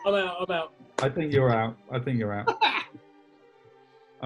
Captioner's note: laughs